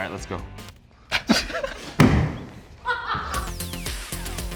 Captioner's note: both laughing